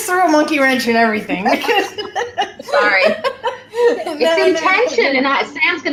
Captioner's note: laughing